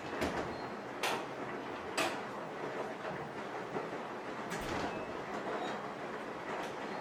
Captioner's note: the sound of the washing machine and my sibling coming into the house.mp3